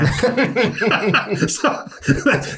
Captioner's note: everyone laughs